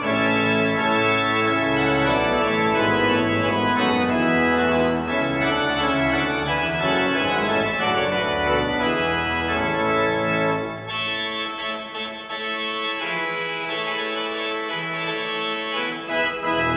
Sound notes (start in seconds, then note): none